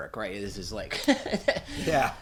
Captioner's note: laughs